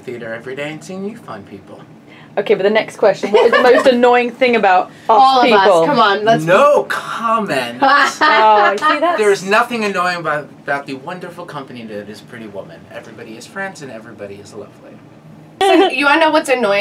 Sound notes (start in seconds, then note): 7.8 laughs